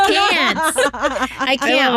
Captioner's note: laughing